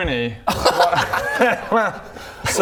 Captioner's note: crazy laugh